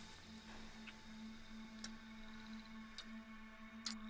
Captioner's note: lips smacking